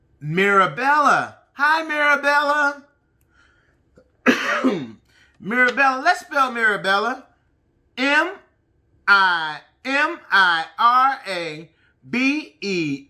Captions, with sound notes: Mirabella. Hi, Marabella. (coughing) Mirabella, let's spell Mirabella. M-I-R-A-B-E-L-L-A.